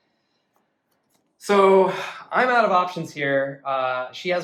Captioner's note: sigh